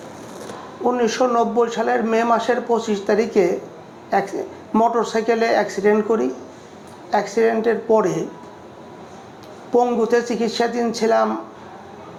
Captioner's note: speaking bangla